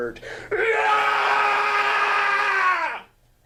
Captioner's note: screaming